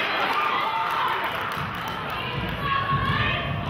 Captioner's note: clapping